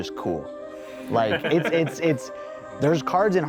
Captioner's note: laughter